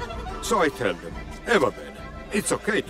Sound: speaking in foreign language

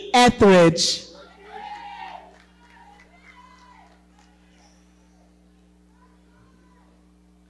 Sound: audience cheering

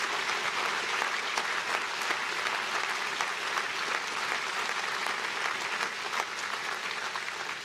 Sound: applause

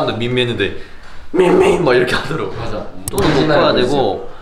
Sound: in deep voice

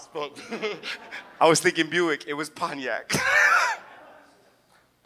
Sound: laughs; chuckles

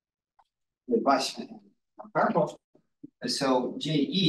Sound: audio distorting

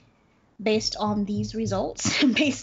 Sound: laughs

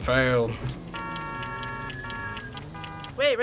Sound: cars honk, telephone rings

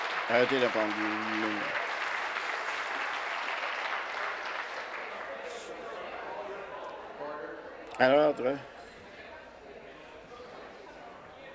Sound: some Applause

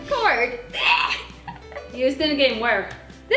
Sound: laughs

